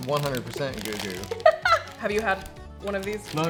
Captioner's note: laughs